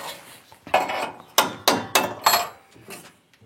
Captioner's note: scratch, knock